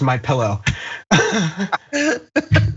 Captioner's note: laugh